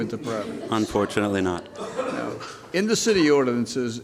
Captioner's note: laughter